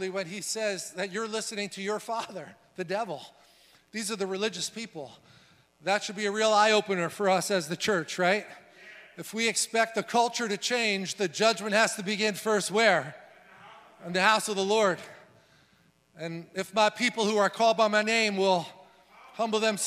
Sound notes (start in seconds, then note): 13.3 crowd